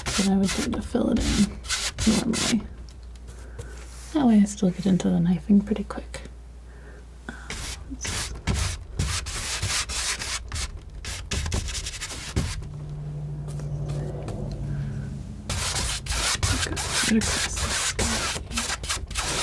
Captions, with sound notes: But I was able to fill it in normally. I always look it into the knifing pretty quick. [tapping] [tapping] [tapping] I'm gonna go across this guy here.